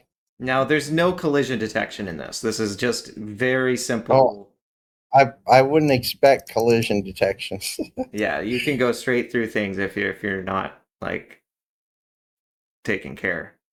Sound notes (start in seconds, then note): 6.0 laugh